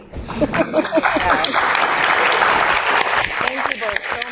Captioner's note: audience applauding